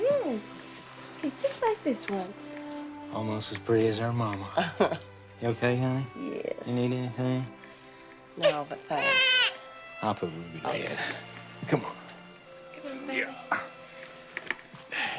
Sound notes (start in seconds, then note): 8.4 Rudy cooing